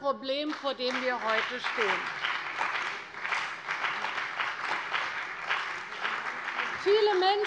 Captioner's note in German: Beifall bei der CDU und dem BÜNDNIS 90/DIE GRÜNEN